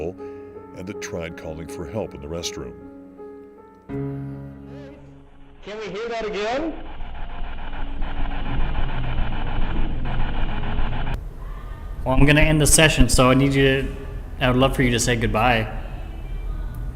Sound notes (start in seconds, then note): 3.6 suspenseful music; 7.0 static buzzing